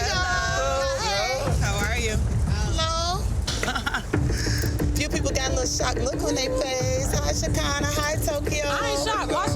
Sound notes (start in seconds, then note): 3.6 woman chuckling